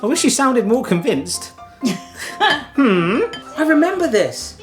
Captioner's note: chuckles